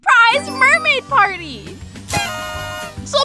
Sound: party horns

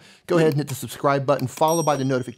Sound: mouse clicking; bell ringing

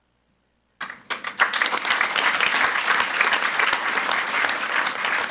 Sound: audience applauds

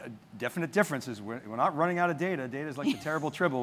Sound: laughing

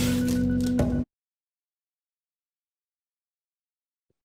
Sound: blade whirring

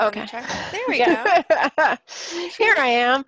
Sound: laughs

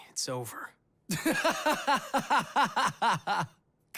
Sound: laughing

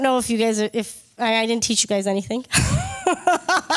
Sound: laughs

